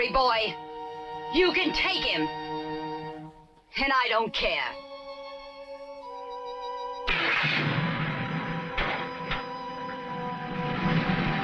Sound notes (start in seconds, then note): 7.2 engine rumbling